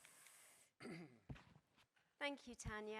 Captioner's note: clears his throat